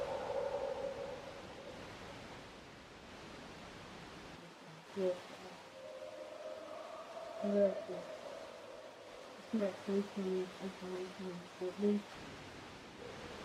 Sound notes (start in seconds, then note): 0.0 creature roaring; 8.2 creature continues roaring